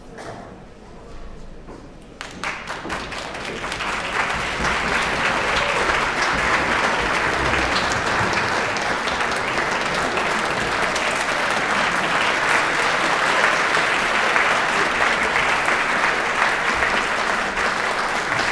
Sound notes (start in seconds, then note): 2.9 applause